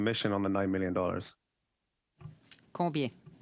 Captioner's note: speaking French